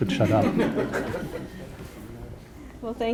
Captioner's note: audience laughing